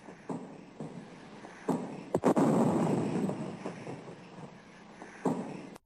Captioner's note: heavy artillery booming